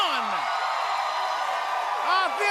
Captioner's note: cheers and applause